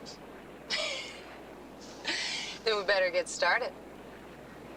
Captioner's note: laughing